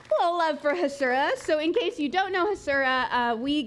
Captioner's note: applause